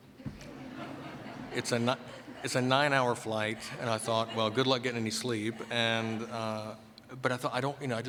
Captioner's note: laughter